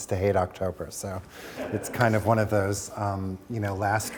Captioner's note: audience chuckling